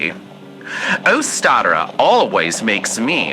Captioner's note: none